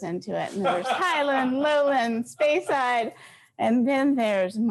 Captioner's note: laughs